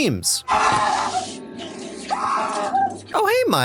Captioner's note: screaming